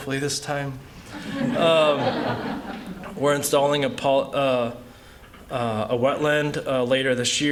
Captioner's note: laughter